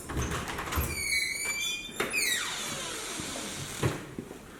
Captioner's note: door opening